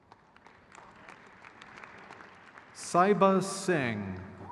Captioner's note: crowd cheers